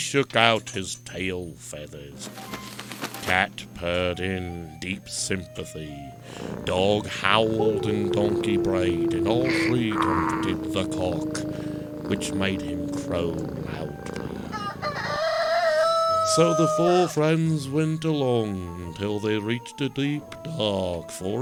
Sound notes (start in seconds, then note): 2.3 feathers shaking; 4.3 cat purring; 6.3 dog howling; 8.3 donkey braying; 11.6 rooster crowing